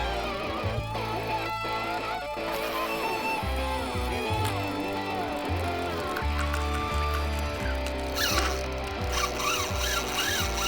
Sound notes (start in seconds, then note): 4.6 fishing reel buzzing